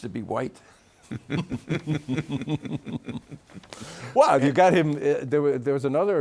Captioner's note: both laughing